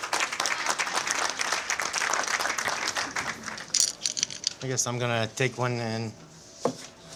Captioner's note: applause